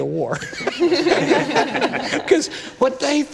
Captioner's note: laughter